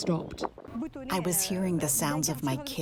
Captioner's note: through translator